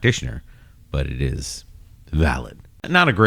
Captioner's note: uh